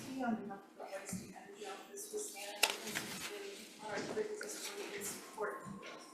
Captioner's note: faintly speaking; faintly speaking